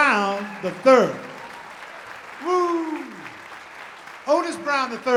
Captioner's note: audience applauding